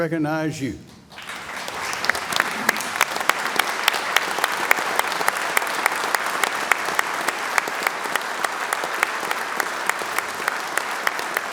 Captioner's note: applause